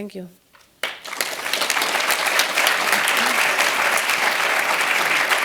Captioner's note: applause